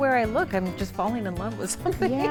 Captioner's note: laughs